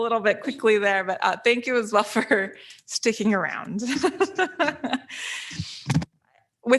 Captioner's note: laughs